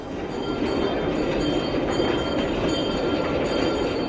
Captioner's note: bell ringing